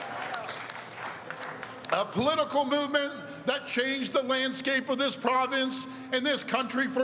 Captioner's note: cheering